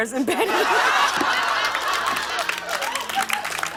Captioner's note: laughter